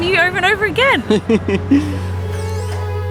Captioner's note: laughter; slow orchestral music